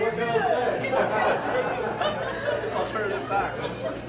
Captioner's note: laughter